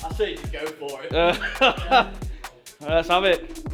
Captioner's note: laughing